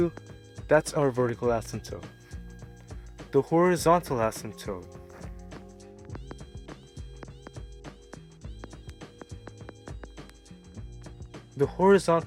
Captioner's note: furious writing